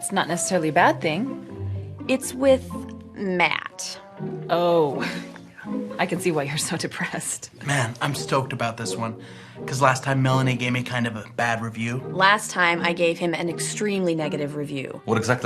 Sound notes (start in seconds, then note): 4.2 scoffs